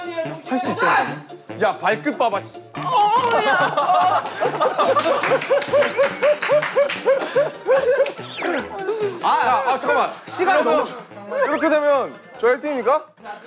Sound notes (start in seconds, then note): 7.6 crying